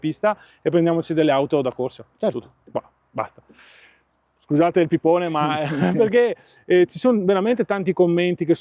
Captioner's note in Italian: sbuffare